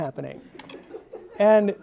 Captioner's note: audience laughing